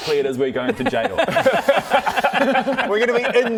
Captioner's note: laughs